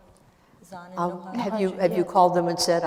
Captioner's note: speaking kurdish